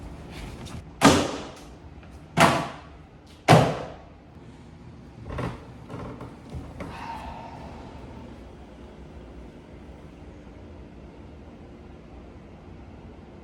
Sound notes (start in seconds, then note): 1.0 binder slams